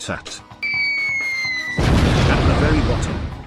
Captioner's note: boom whoosing sound effect